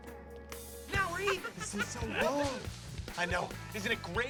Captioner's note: laughs